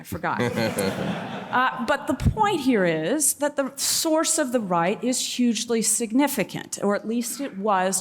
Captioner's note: laughter